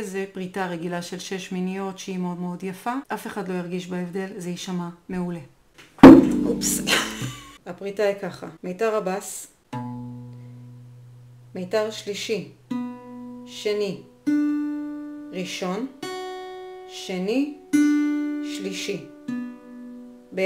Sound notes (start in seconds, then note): 6.8 + stupid laugh